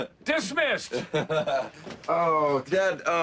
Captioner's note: laughs